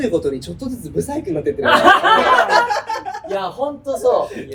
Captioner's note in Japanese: 笑い声